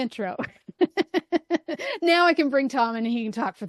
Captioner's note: laughing